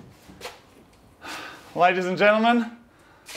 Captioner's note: exhales